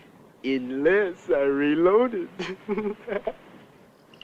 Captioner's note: laugh